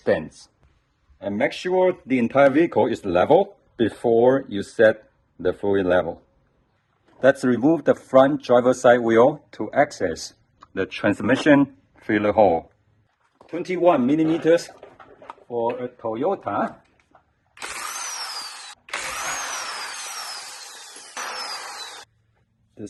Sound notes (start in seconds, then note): 17.6 wrenching